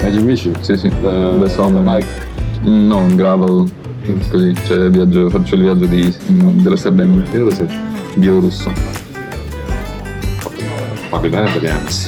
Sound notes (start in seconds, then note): 0.3 speaking Italian; 3.5 speaking Italian